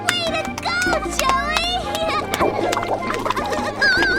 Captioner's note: clapping